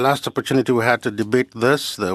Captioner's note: speaking French